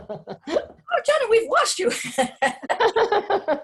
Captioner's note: laughing